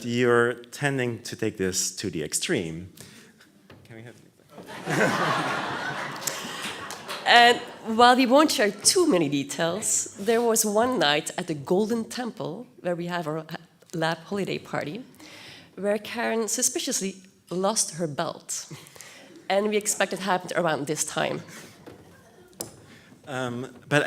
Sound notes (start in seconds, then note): 4.6 loud audience laughter